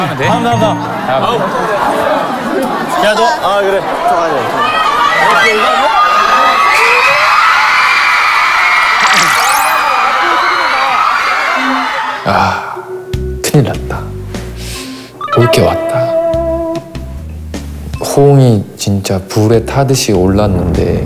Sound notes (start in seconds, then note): 8.2 screaming like never before